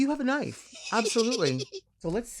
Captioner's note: laughing